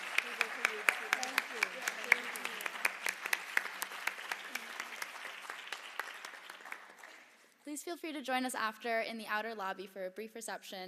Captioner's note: applause